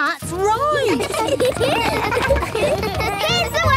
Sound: laughter

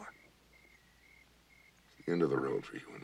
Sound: crickets chirping

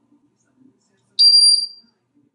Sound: squeaking sound

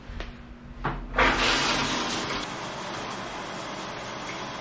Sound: water splashes

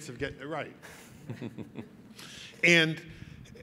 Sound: laughing

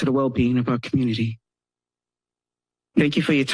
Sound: pause

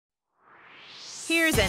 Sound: swoosh

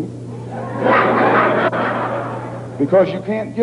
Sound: laughter

